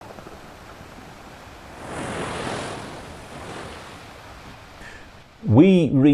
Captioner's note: the sound of waves breaking on rocks